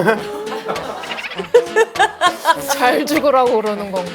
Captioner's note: laughs